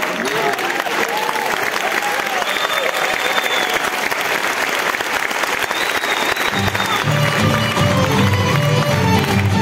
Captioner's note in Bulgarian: аплодисменти